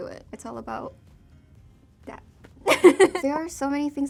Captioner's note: laughs